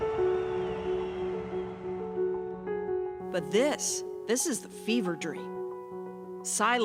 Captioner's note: cheers and applause